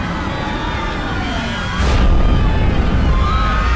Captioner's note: screaming